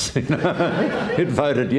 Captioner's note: laughs